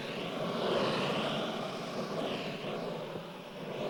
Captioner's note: steam hissing